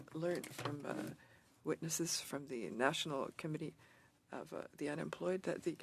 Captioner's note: speaking French